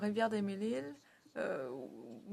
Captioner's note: speaking French